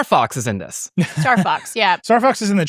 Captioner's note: laughing